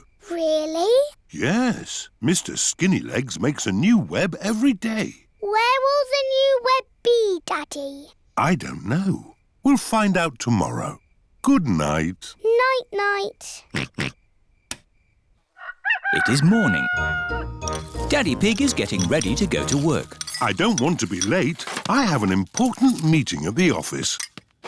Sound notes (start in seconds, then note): 13.7 oinks; 15.5 rooster crows